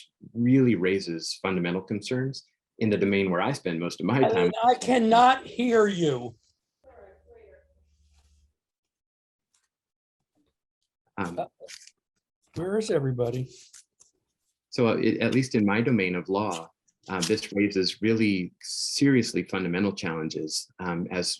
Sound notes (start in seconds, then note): 7.2 people chattering